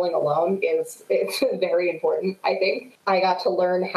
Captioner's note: chuckles